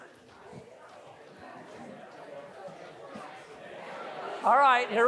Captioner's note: students chattering